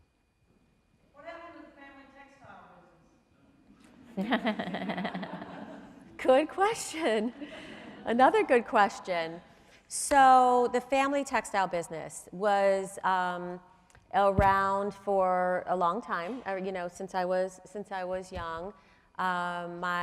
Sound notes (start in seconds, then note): 3.9 crowd laughing